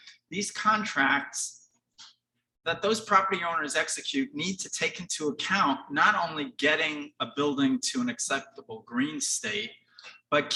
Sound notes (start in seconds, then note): none